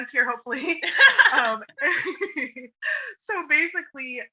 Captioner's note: laughs